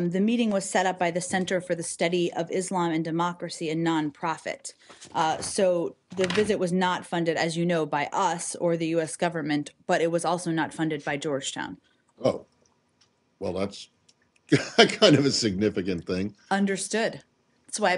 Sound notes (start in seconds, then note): 14.5 laughter